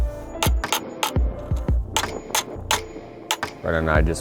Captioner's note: metal thudding